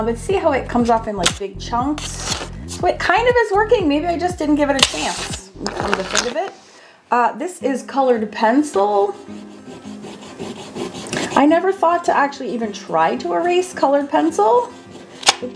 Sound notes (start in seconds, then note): 4.8 drawing paper scraping; 4.8 scraping drowns out; 8.7 eraser rubbing